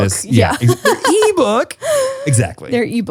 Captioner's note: laughs